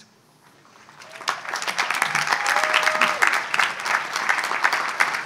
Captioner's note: audience applauds